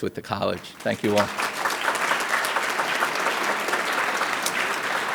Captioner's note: audience claps